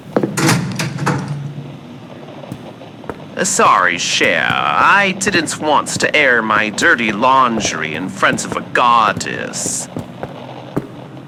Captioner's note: walking down the stairs fx